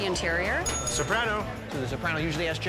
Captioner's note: bell dinging